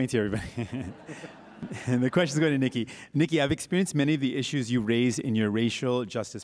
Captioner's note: chuckles